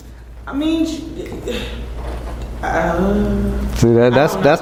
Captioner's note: audibly thinks